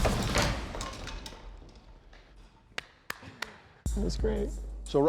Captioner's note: claps